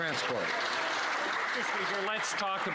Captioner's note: some Applause